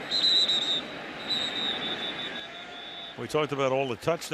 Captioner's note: whistle blows